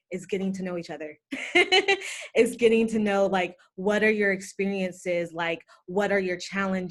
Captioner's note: laughter